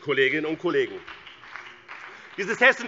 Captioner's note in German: Beifall BÜNDNIS 90/DIE GRÜNEN